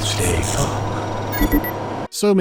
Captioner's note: bee-boop